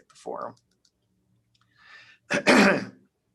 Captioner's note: clears throat